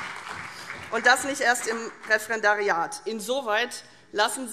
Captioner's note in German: Beifall CDU und vereinzelt BÜNDNIS 90/DIE GRÜNEN